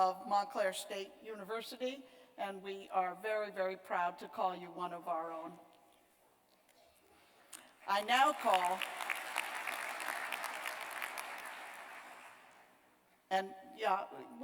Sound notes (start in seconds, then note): 5.4 applause